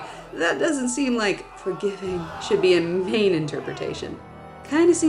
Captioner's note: dying cries of men, women, and children